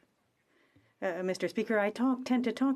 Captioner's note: speaking French